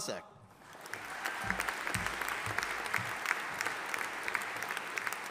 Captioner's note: audience applauding